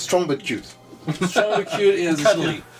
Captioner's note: laughs